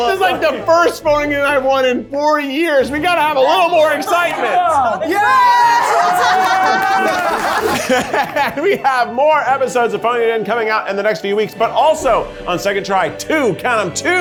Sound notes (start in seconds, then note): 5.0 all cheering; 7.8 laughs